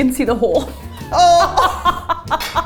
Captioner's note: laughs